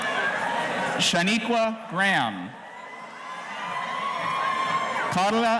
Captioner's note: audience cheering